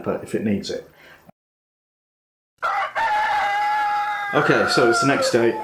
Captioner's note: rooster crowing